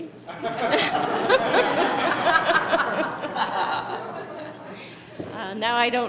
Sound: laughter

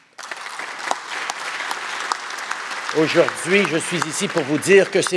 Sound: applause

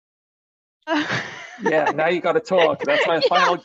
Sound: laughs

